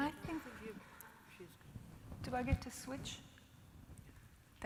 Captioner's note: assorted chatter from panelists